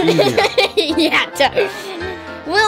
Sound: laughter

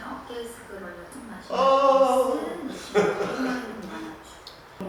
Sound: yawning

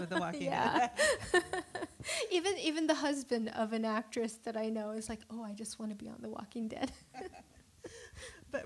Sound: laughing; laughter

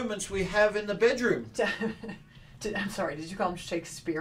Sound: laughing

